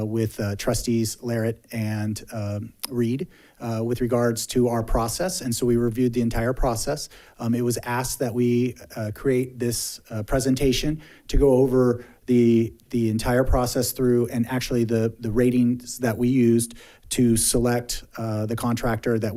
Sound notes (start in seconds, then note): none